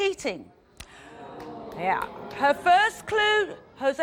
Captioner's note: audience groans